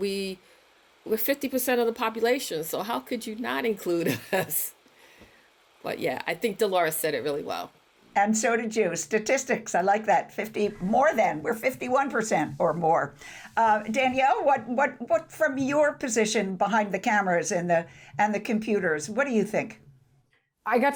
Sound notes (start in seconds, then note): 4.0 chuckles